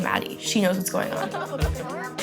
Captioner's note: laughs